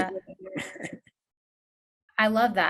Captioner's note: laughs